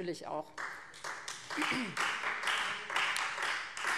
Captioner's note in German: Beifall Freie Demokraten